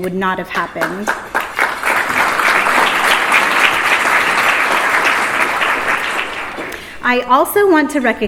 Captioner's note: applause